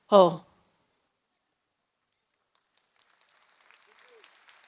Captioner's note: applause